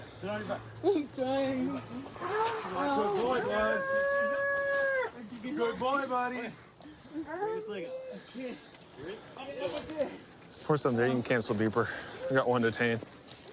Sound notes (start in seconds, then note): 3.8 wails